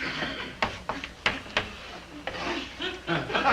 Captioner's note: chalk tapping